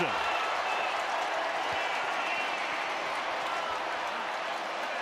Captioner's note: cheering